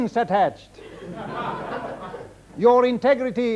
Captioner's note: audience laughing